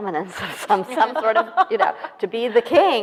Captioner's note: laughing